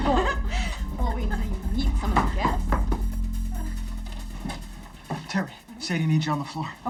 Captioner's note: laughs